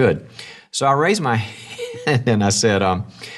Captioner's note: laughs